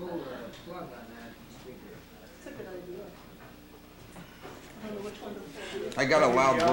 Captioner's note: chatter